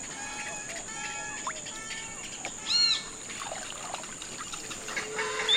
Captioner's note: animal noises